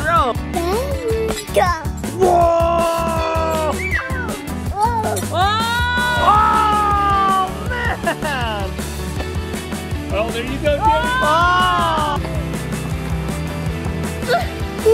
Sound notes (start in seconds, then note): 5.6 all Shouting; 10.8 disappointed shouting